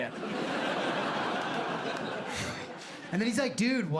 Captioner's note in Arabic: ضحك